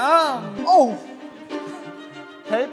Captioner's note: disgusted